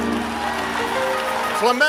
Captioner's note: applause